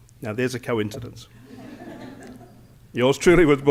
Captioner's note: laughter